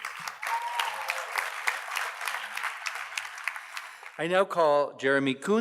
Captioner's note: audience cheers and applauds